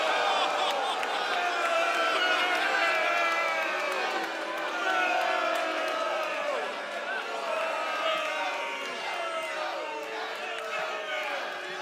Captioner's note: crowd response